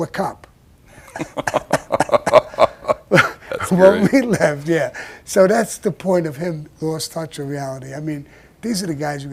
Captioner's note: both laughed